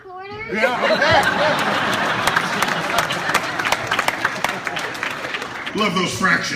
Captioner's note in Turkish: Alkış ve kahkahalar